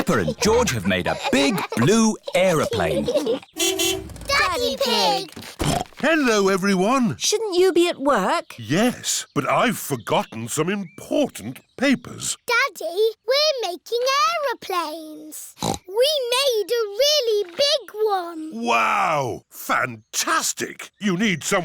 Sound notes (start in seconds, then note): 0.0 both giggling; 3.5 horn honks; 5.3 snorts; 15.5 snorts